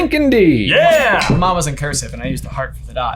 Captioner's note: tone dings